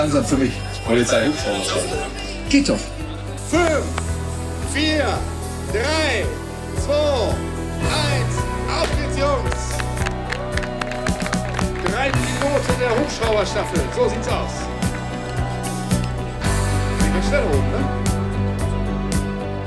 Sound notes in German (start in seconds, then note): 9.9 Jubel, Klatschen; 15.9 Dynamische Musik